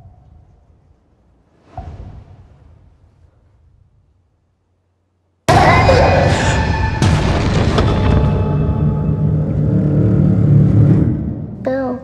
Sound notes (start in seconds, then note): 1.4 soft whoosh; 5.5 screams; 6.2 crashes; 10.2 ominous humming